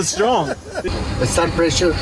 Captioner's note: chuckles